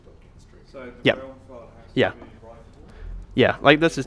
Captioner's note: voiceover